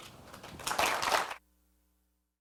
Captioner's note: applause